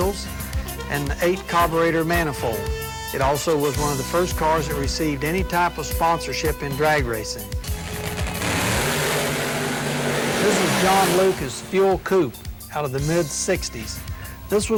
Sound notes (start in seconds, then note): 7.6 car revving